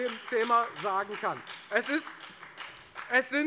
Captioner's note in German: Beifall bei der FDP